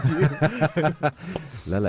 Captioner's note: laughter